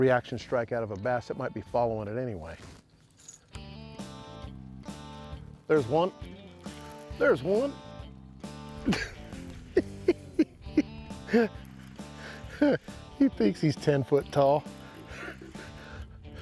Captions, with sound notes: strike out of a bass that might be following it anyway. There's one! There's one. [chuckling] He thinks he's 10 foot tall!